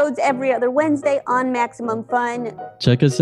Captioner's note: none